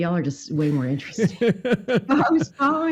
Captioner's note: laughing